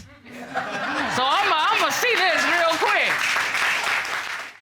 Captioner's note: audience applauding